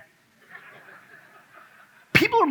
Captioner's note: audience laughs